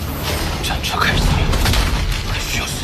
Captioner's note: the war chariot starts